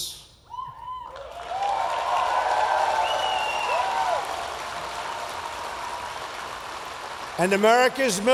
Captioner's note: applause